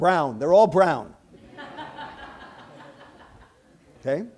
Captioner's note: laughter